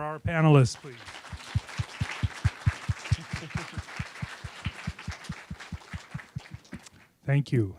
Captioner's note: applause